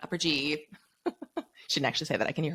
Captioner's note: laughs